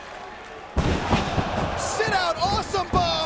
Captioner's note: bodies slamming